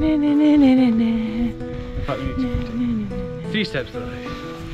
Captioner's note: hums